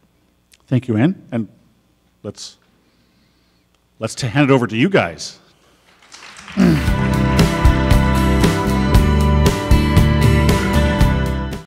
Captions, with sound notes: - Thank you, Ann, and let's hand it over to you guys. (audience applauding) (upbeat instrumental music)